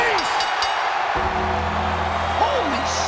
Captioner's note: crowd roars; bell dings